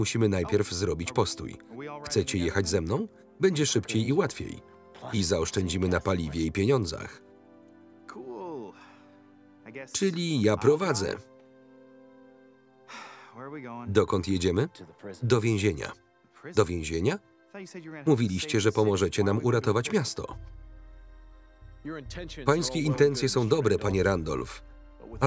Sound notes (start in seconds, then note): 12.9 sighs